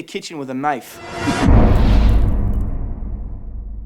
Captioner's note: impact